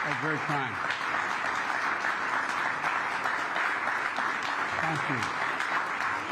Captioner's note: applause